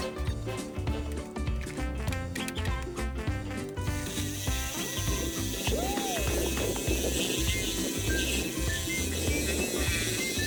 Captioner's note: laughs